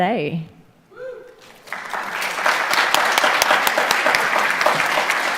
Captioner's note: audience applauds